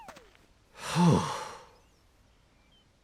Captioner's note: Subaru sighs in relief